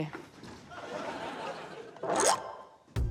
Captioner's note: laughter